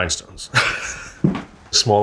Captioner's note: chuckles